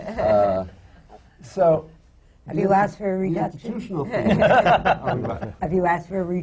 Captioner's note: laughter from the panel